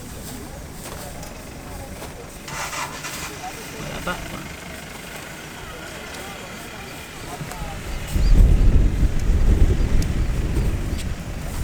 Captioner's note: sound of elephants pulling the grass